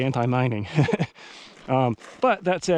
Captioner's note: laughs